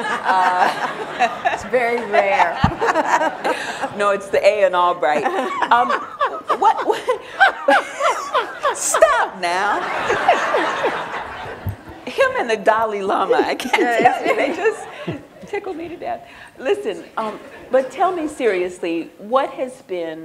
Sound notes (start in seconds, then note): 6.9 laughter